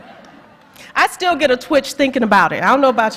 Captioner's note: laughter